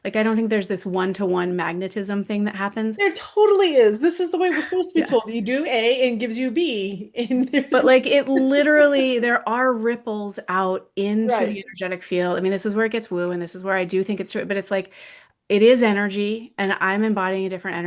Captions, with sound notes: Like, I don't think there's this one-to-one magnetism thing that happens. There totally is. This is the way we're supposed to be told. You do A and it gives you B, and there's (laughs) - But like, it literally, there are ripples out into- Right. ... the energetic field. I mean, this is where it gets woo and this is where I do think it's true, but it's like, it is energy, and I'm embodying a different